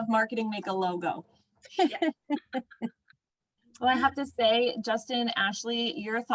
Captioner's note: laughter